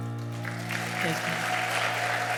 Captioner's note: audience clapping and cheering